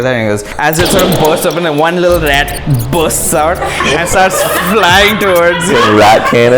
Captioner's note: boosh